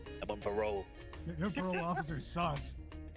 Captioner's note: laughs